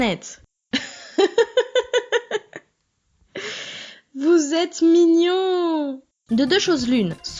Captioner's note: laughs